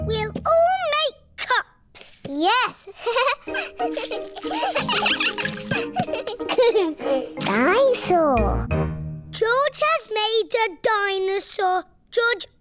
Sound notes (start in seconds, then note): 2.9 giggles; 3.8 all giggling